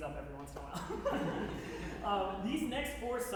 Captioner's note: laughing